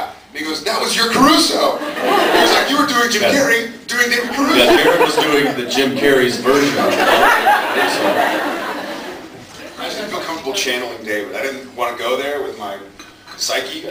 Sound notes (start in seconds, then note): 1.8 laughs; 7.8 laughs